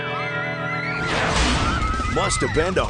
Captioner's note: children scream delightedly; hard rock music; Hard Rock Park logo whooshes then clangs